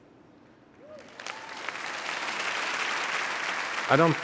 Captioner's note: audience applauding and cheering